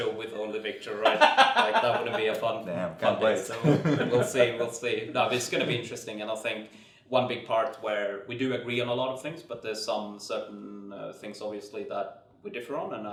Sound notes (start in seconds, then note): 1.0 laughs